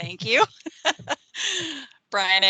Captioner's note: laughing